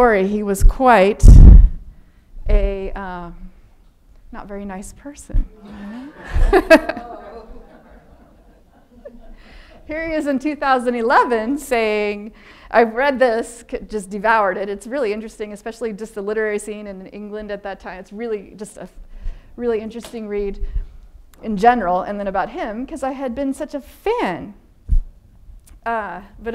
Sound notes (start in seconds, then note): 5.6 laughing; 5.6 audience laughing